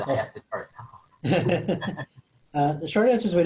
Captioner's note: chuckling